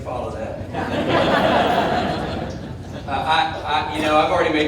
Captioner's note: audience laughing